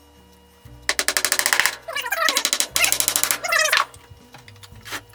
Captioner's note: more tapping and meaningless noise